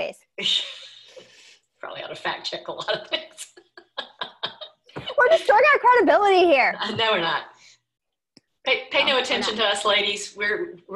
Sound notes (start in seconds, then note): 2.8 laughing